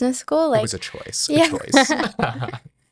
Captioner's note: laughs